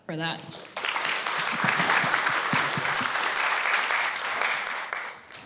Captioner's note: everyone applauds